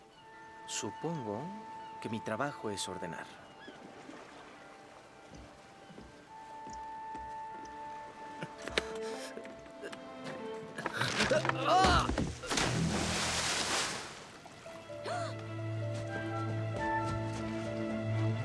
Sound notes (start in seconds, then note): 15.1 gasp